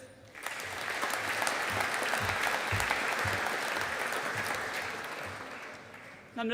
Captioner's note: audience applauding